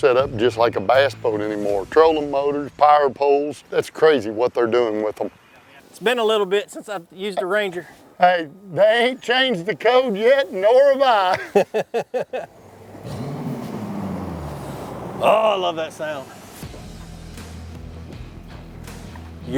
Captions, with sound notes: these kayaks were set up just like a bass boat anymore. Trolling motors, power poles. That's crazy what they're doing with them. - It's been a little bit since I've used a ranger. - Hey, they ain't changed the code yet, nor have I. (laughter) (engine running) - Oh, I love that sound. (upbeat country beat)